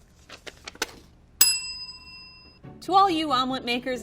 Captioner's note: bell rings